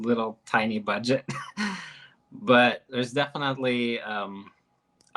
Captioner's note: chuckles